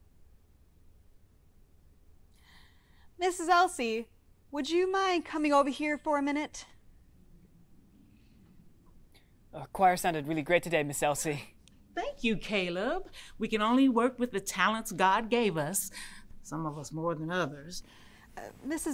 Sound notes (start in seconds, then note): none